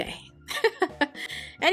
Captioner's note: laughs